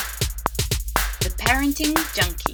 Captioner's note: upbeat music; voiceover